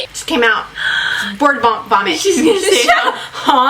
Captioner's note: gasps; laughs